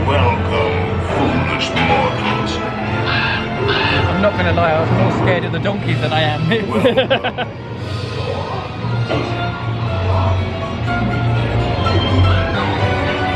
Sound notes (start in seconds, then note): 2.8 bird cawing; 6.5 laughs; 10.6 creepy music